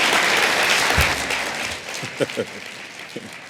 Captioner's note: applause